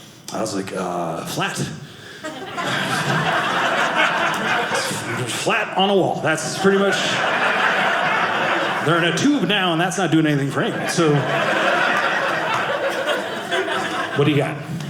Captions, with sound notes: I was like, flat. (audience laughing) Flat on a wall. (audience laughing) They're in a tube now, and that's not doing anything great. (audience laughing) What do you got?